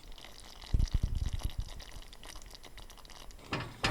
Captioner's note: boiling sound